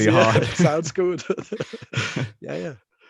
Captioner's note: laughs